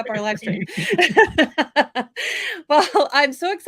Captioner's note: laughing